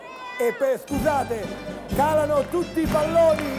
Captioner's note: Applauso